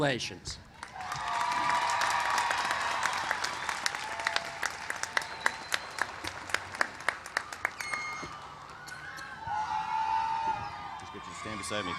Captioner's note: applause